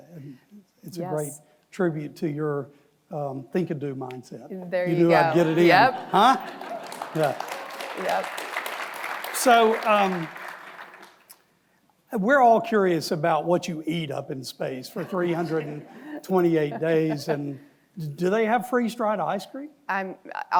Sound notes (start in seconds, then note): 5.3 audience applauds